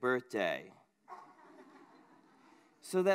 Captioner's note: laughter